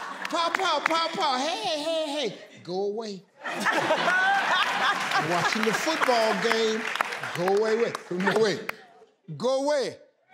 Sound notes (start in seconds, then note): 3.4 laughing